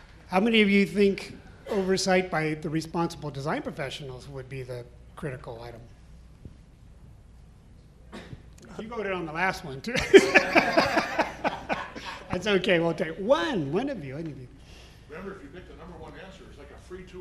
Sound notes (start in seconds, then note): 10.0 panel laughing